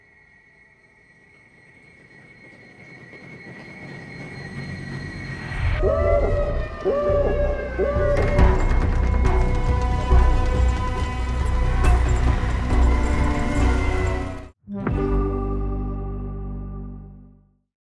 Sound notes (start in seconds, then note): 0.2 high-pitched humming; 6.3 sirens wailing; 9.2 suspenseful dramatic music; 14.8 graphics chiming